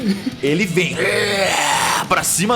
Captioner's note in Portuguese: grunhido